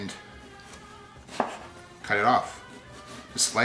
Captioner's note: chopping